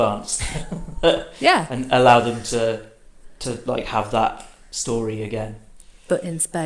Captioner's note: laughs